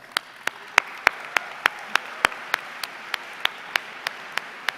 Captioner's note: everyone applauds